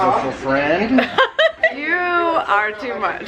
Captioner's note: laughs